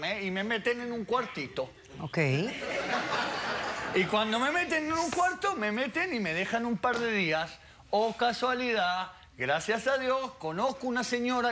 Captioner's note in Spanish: Risas